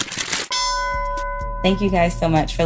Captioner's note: bell dings